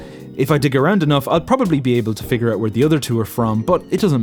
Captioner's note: none